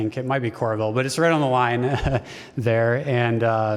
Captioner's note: laughter